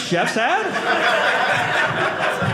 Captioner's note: audience laughing